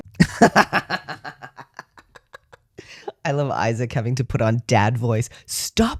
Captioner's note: laughter